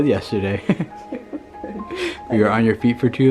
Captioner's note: both chucking